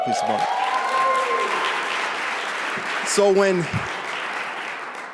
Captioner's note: audience cheering